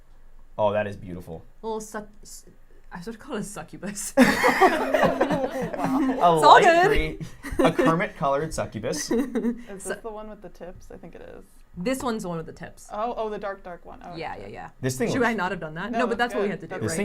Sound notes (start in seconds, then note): 4.2 everyone laughs